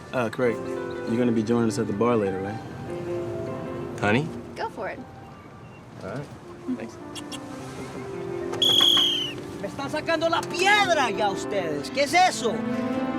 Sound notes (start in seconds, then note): 8.6 whistle blows; 9.9 speaking in Spanish